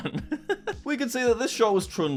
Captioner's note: chuckling